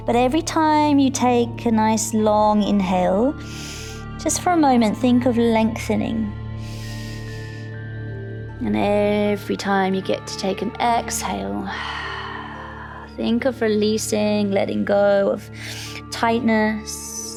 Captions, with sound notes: but every time you take a nice long inhale, just for a moment think of lengthening. (inhales) And every time you get to take an exhale, (sighs) think of releasing, letting go of tightness.